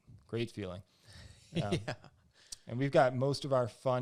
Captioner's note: laughs